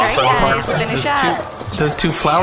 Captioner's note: pledgers in the house all shouting